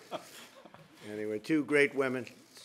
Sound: laughter

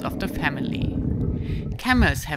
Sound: camels grunting

